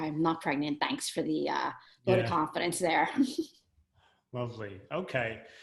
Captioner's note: laughs